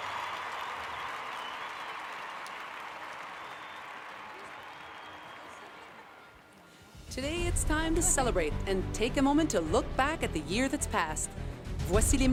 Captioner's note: applause